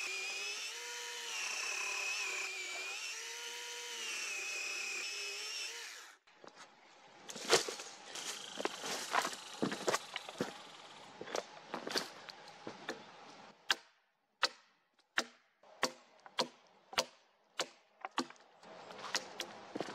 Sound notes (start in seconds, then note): 0.0 chainsaw running; 6.4 leaves and branches crackling, footsteps, one angry american red squirrel; 13.2 axe knocking on wood, wood cracking